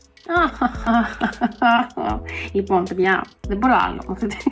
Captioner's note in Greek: γέλια